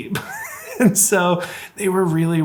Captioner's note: laughing